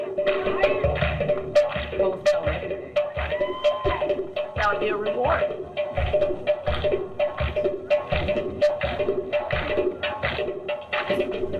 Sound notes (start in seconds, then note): 0.2 upbeat drum music; 3.0 crowd cheers